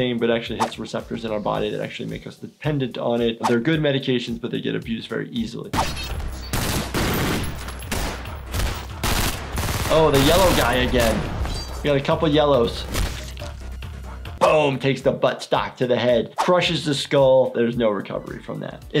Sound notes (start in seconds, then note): 5.7 gun shooting; 5.7 active music; 13.2 flesh crunches